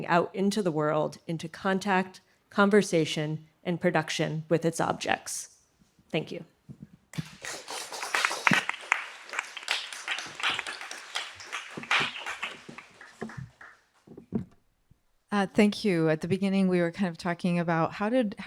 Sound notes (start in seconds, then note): 7.1 audience clapping